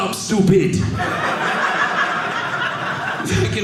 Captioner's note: audience laughing